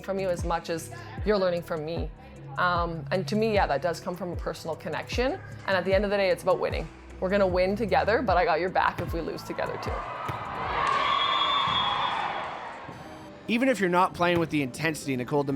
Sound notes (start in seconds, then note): 11.0 whistle blows